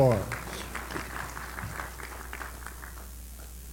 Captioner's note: applause